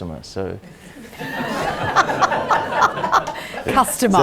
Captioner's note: audience laughs